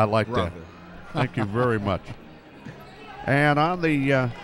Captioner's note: chuckles